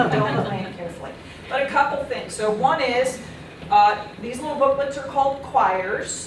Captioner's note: laughter